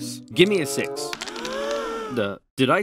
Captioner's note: dice rattling; gasps